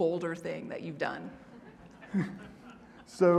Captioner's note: audience laughing